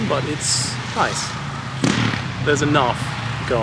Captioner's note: motorcycle farting in the distance